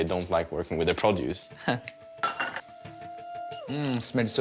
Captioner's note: chuckles